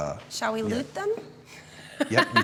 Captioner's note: laughs